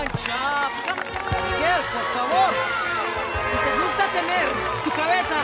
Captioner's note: Rovira speaking in Spanish